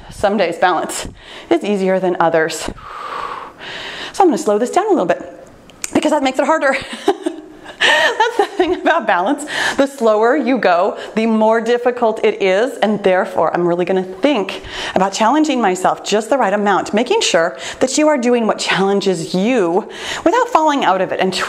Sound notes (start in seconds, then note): 2.6 breathes deeply; 6.6 laughs